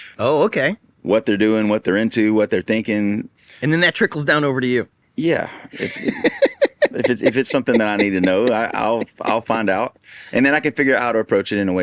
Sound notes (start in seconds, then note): 5.6 laughing